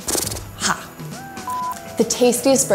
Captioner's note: beep